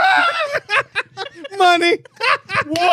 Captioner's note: laughing